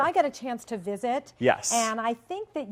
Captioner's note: voiceover